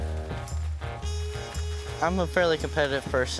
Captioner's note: corn stalks rustling